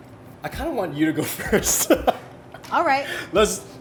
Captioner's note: laughs